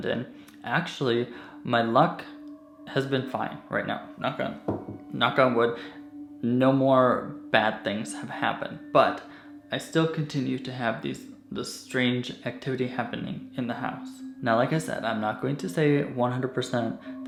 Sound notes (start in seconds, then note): 4.7 knocks